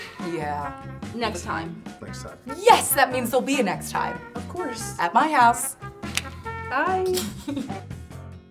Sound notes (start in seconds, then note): 7.2 snickering